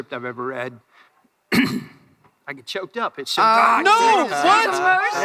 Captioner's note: clears throat